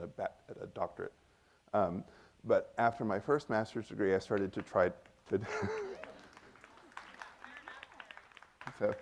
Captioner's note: laughs as the audience begins to clap